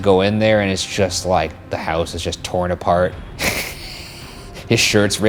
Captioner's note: laughs